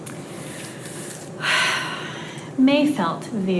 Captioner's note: sighing